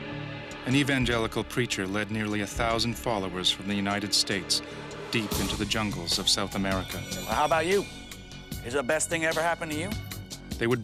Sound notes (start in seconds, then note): 0.8 voiceover